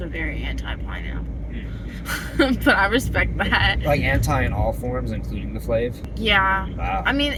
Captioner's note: laughing